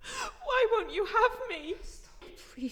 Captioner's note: sobbing